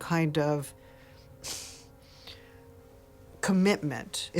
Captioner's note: sharp exhale